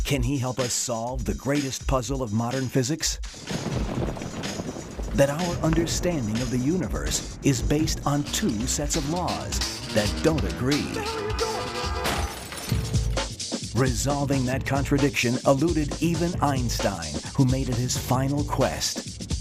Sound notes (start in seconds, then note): 3.6 thunder crashing; 11.8 crash